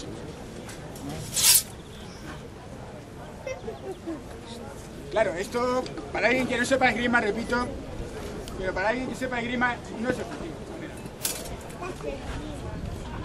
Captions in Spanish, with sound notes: [ chocan las espadas ] Claro, ésto, para alguien que no sepa esgrima, repito. Pero para alguien que sepa esgrima no es efectivo. [ chocan las espadas ]